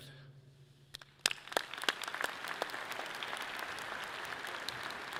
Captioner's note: audience clapping loudly